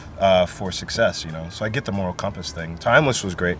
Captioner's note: none